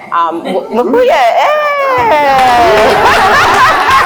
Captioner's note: cheers and Laughs; applauds